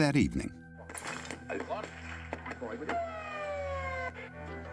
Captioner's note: radio switching between stations